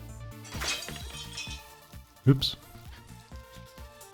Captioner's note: crashing noise